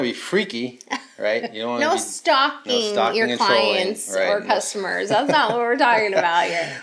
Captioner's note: laughs